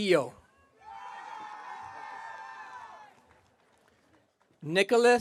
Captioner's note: audience cheering